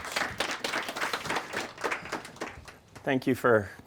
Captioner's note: audience applauding